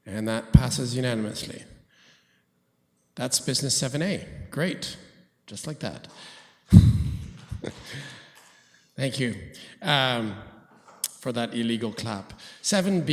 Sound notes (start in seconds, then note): 7.7 applause